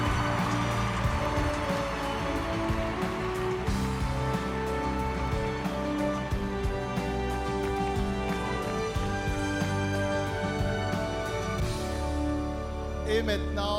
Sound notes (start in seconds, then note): 0.0 applause; 2.7 cheering